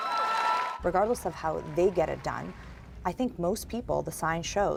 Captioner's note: applause